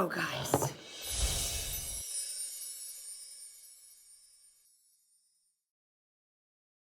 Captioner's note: sparkling; whooshing